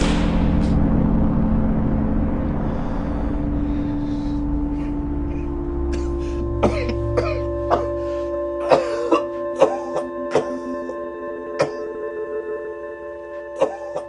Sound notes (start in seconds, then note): 0.3 melodic haunting music; 5.8 coughing